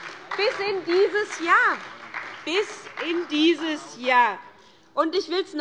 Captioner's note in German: Beifall bei der SPD